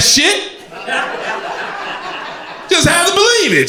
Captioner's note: crowd laughter